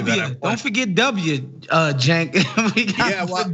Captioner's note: laugh